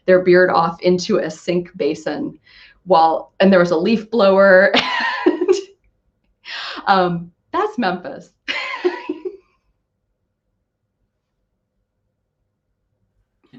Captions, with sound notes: their beard off into a sink basin, and there was a leaf blower. (laughs) That's Memphis. (laughing)